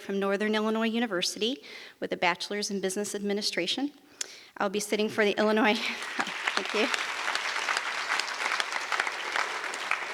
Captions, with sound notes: from Northern Illinois University with a bachelor's in Business Administration. I'll be sitting for the Illinois- (audience applause) Thank you.